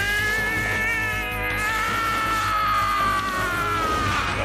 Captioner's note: movie audio